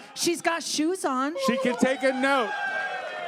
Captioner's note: audience cheers